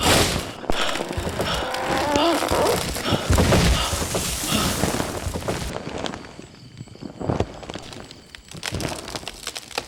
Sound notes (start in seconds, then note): 1.0 eerie moaning; 4.6 tree crashing over